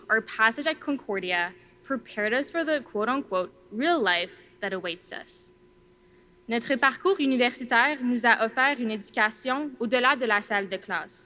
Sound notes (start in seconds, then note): 6.6 speaking in foreign language